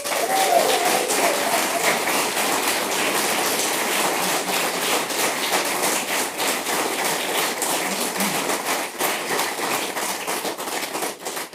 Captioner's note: applause